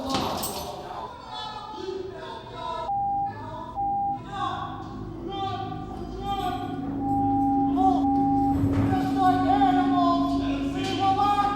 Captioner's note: men shouting and swearing